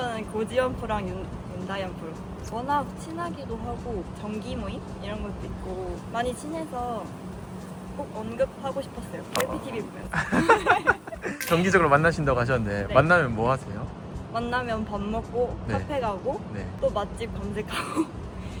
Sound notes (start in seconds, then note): 10.1 laughter